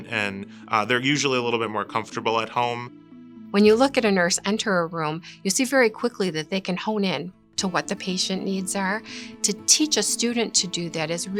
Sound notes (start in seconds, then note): 3.5 mann talking